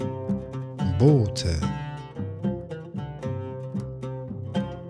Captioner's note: german